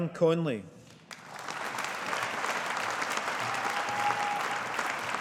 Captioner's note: audience applauding